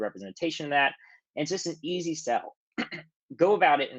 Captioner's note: clears throat